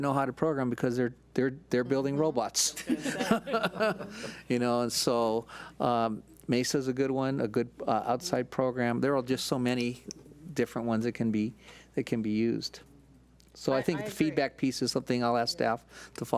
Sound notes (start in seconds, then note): 2.7 laughs